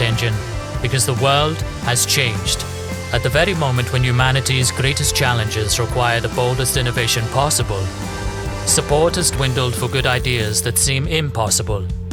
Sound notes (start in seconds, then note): none